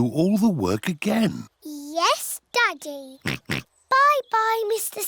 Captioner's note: oinks